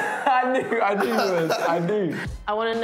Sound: laughs

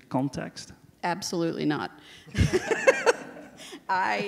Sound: laughs

